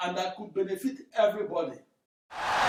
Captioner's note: wild applause and cheering for 17 seconds